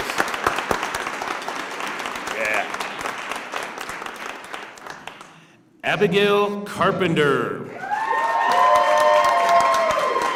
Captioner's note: applause; applause